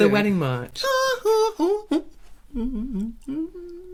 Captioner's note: humming